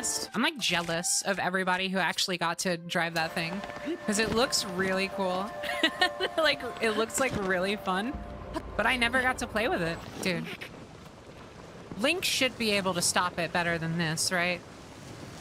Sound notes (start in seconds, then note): 5.6 laughter